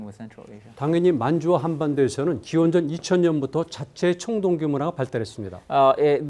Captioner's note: speaking in Korean